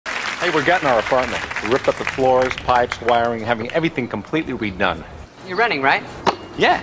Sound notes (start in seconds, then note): 0.0 audience applauds